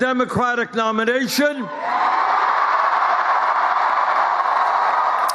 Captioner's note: cheers and applause